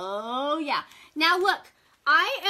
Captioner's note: none